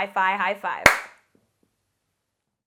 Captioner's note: hands clap